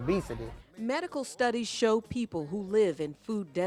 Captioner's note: voiceover